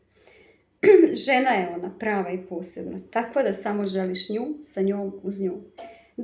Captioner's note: coughs